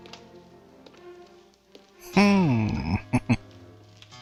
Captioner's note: chuckling